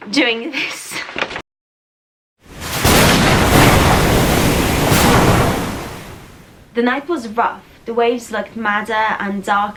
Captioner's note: loud storm noises, lighting strikes, serene voice